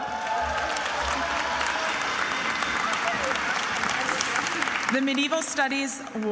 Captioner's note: attendees applauding and cheering